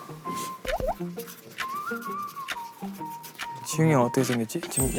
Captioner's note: the busy scratching sound of markers